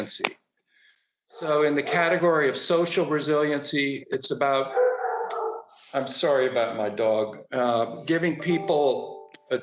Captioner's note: barking